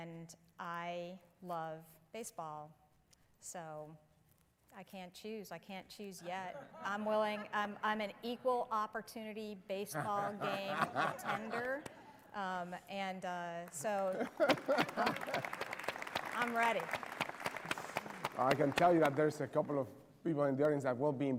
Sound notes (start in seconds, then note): 13.6 applause